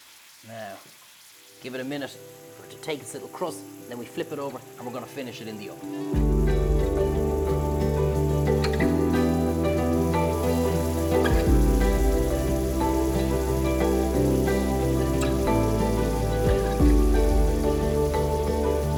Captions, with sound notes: Now give it a minute for it to take its little crust, then we flip it over and we're gonna finish it in the oven. (relaxing upbeat music) (pan sizzles)